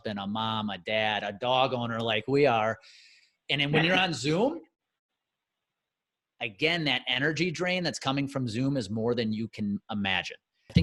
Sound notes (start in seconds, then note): 3.7 chuckles